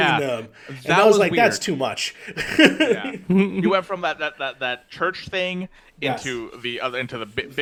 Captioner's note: laughs